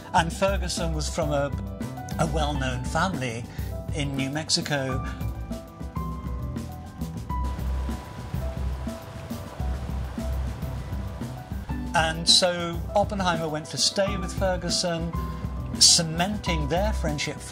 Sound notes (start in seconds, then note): 7.3 water rushing